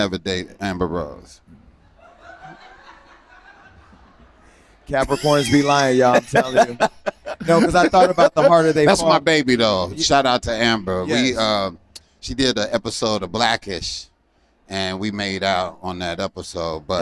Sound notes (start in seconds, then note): 1.8 laughter